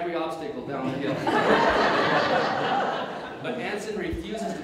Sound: audience Laughter

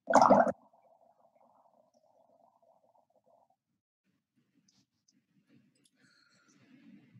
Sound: bubbling

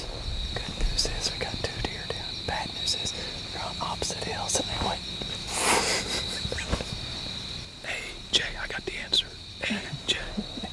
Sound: whispering; whispering

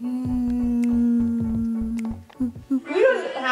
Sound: kissing sound

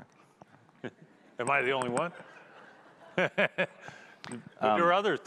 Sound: chuckling

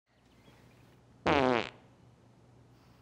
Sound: farting

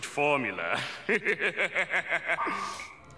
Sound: laughing

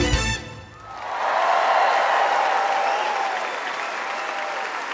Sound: audience applauding

